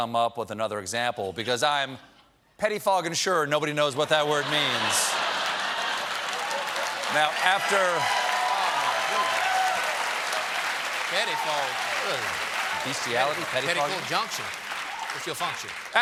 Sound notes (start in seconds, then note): 6.4 applause; 6.4 laughter; 9.8 applause